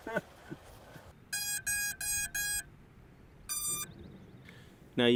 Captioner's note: beep, beep, beep, beep…beeeep